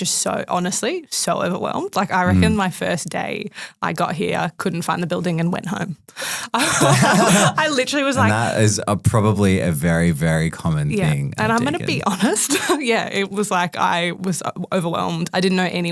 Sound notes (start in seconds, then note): 6.5 group laughing